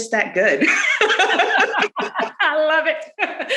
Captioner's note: laughs